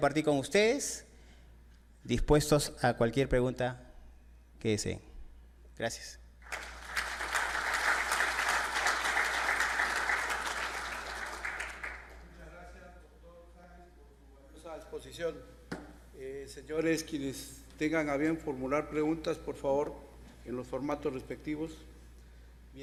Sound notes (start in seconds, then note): 6.4 applauses